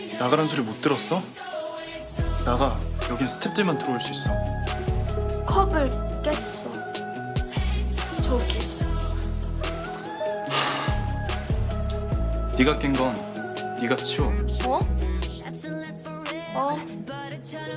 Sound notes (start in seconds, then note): 10.4 sigh